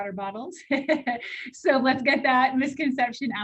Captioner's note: laughter